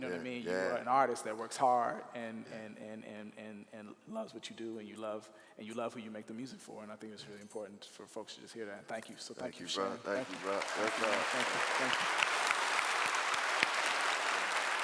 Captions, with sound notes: You are an artist that works hard and loves what you do. And, you love who you make the music for. And, I think that it's really important for folks to just hear that. So thank you, shi. - Thank you brother. (clapping)